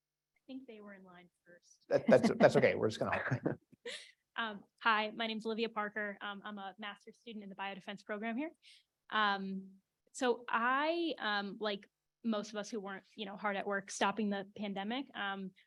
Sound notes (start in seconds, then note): 1.9 laugh